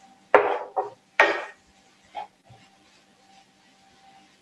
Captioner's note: spoon thudding